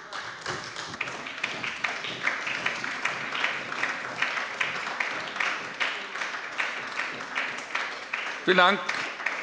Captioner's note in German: Beifall bei der SPD